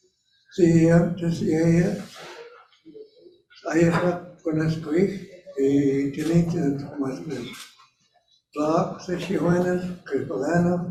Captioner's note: Speaking in hən̓q̓əmin̓əm̓